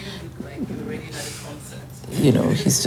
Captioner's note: laughs